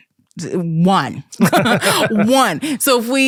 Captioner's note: both laughing